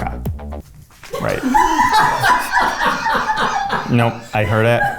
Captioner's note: producers laugh